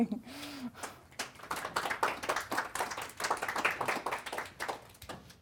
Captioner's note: audience applauding